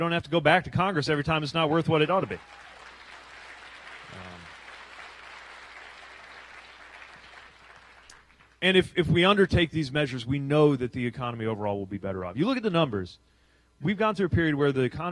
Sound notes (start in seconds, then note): 6.2 applause